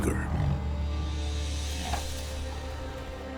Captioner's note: tiger huffing